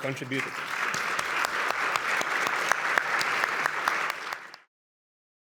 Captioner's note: audience applauds